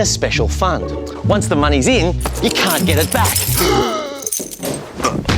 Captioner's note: gasps